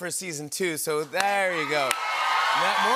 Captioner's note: cheering and applause